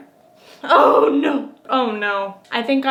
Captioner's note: gasps